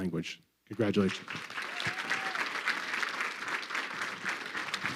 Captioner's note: crowd clapping